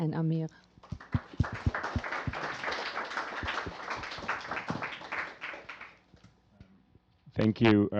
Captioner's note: applause